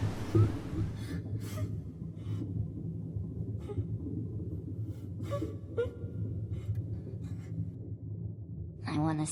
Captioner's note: beach ambience; sobbing